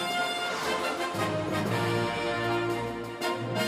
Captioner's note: air quivers